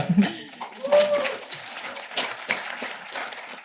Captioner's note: applause